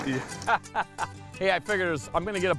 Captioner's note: laughing